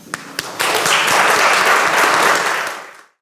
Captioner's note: audience applauds